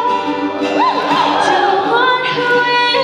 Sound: audience cheering

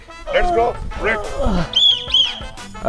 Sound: whistling

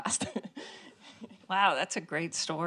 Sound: laughing

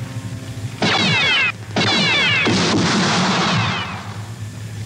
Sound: laser gun fires

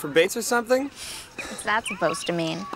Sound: Megan scoffs

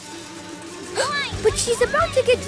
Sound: gasping

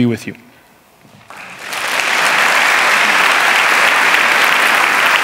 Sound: clapping

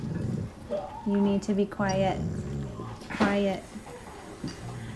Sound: dog growls

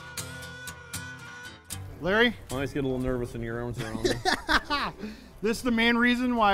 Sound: laughing

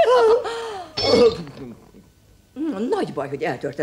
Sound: crash

